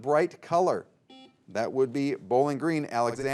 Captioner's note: buzzer beeps